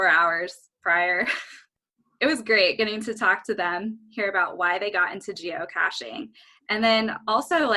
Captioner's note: chuckle